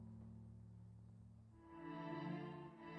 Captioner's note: none